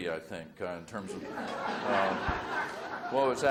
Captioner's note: audience laughs